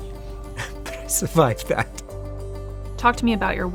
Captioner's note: chuckles